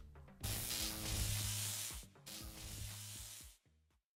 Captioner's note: static crackling